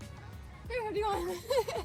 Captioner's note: laughs hysterically